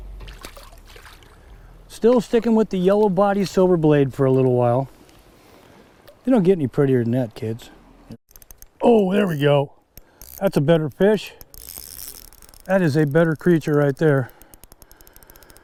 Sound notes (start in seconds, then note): 0.1 fish splashing; 10.2 reel spinning